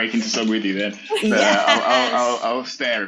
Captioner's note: laughs